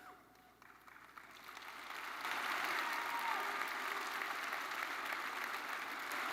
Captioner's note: attendees applauding and cheering